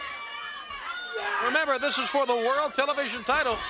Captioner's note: crowd chatter